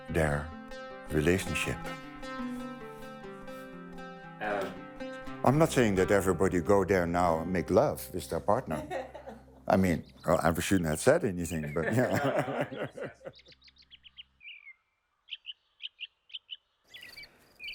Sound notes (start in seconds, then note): 11.6 both laughing; 15.1 birds singing